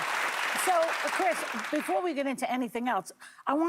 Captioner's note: applause